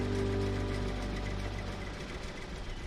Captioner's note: engine rumbling